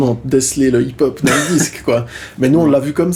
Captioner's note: laughs